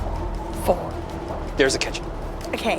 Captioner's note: none